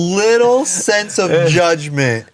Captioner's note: Ian laughs